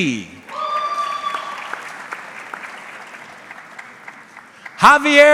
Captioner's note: audience clapping